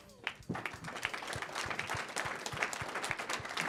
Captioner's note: applause